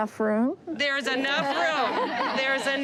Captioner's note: laughter